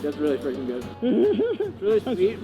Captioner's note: laughing